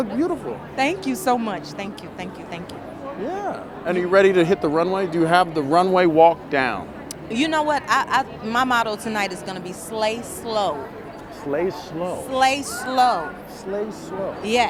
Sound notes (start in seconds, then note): 12.3 laughs